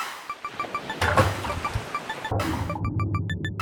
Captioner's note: birds cawing; splash; deep water sounds